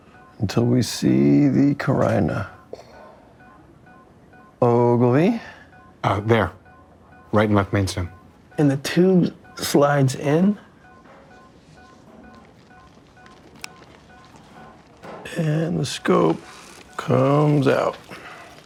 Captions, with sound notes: until we see the carina. (MEDICAL DEVICE BEEPING RYTHMICALLY) Ogilvie. Uh, there. Right and left mainstem. And the tube slides in. And the scope comes out.